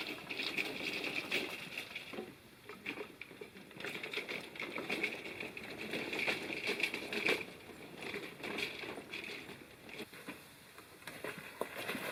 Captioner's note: water splashing